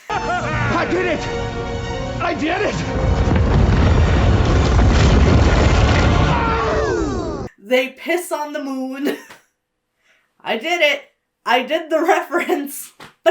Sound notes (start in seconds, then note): 0.0 Knuckles and Tails cheer; 2.6 uplifting music; 2.9 laser rumbles